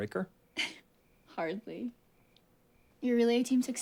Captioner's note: giggles